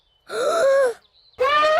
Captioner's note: inhales deeply; trumpets loudly